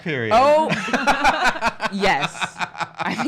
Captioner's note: laughing